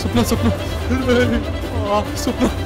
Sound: cries

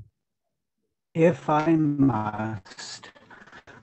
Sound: audio statics

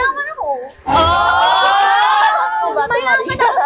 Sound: screams

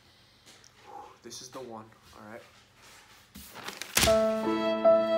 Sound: exhales; sad music

